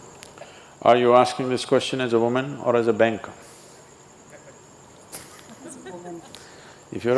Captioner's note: laughs